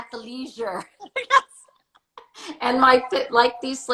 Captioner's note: laughs